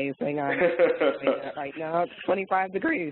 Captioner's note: laughing